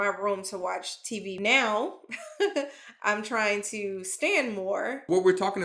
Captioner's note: chuckles